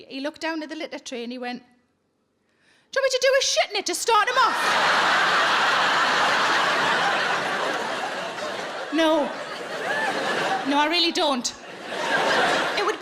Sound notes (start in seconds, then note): 4.4 audience laughing; 11.7 chuckles; 11.8 audience laughing